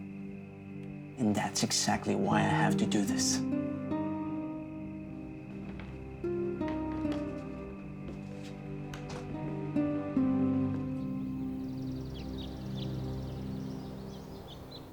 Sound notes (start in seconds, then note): 10.8 birds chirping